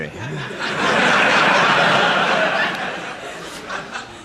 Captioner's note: crowd laughing